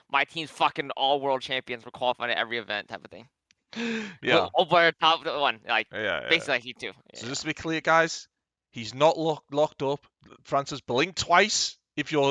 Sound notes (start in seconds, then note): 4.2 laughs